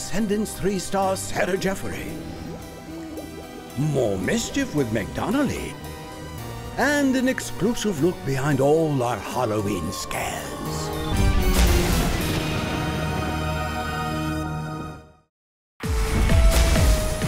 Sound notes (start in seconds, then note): 10.9 thunder crashes